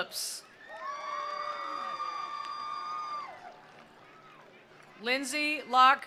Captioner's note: attendees cheering; attendees applauding